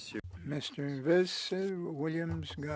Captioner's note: speaking French